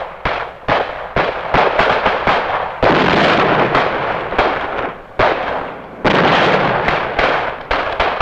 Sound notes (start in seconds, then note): 0.2 guns blasting; 1.1 explosions booming